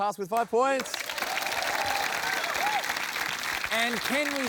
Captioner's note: cheering, applause